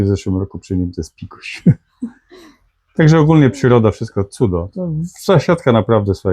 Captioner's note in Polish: śmiech